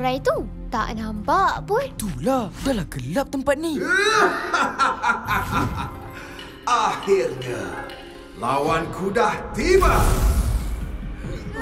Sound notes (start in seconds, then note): 3.9 echoing laughter